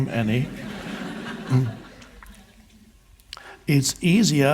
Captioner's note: audience laughs